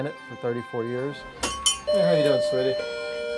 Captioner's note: doorbell rings